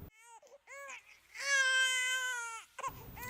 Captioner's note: baby wailing